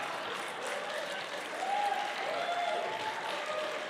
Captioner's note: applause